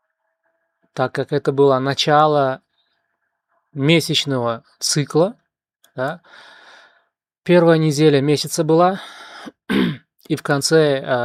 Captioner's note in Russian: откашливается